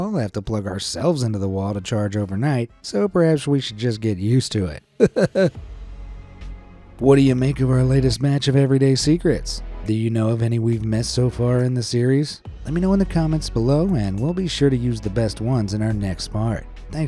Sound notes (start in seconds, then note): 5.0 chuckles